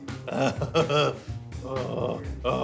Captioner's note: laughs; groaning